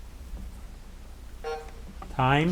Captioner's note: timer buzzing